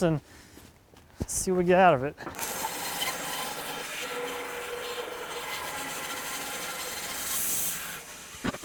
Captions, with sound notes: and see what we get out of it. (saw whizzing)